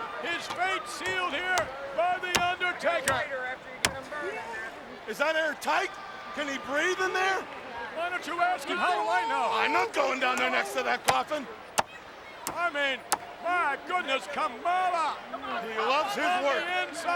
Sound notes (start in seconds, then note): none